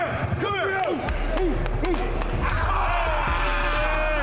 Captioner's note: grunting and cheering